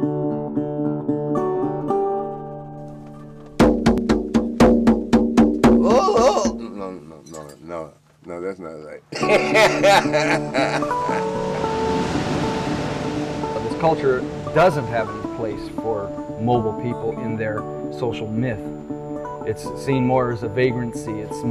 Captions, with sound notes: *Drumming noises* Ohh Ohhh Ohhh... No, no, no that's not right. *laughs* This culture doesn't have a place for mobile people in their social myth. It's seen more as a vagrancy.